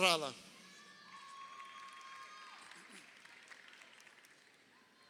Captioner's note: crowd cheering